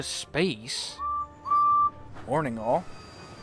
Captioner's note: edward whistles